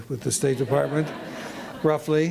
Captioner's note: laughter